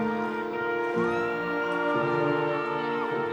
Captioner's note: cheering